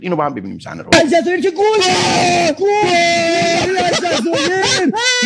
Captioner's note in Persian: صدای جیغ